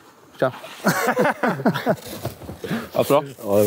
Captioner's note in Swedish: skratt